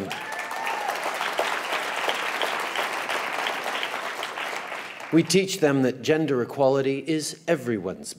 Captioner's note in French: Cheers & applause